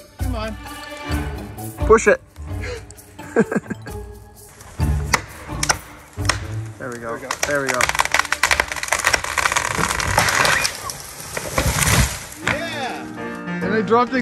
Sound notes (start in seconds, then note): 2.5 both laugh; 9.1 tree crack